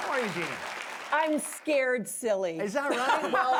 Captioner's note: applause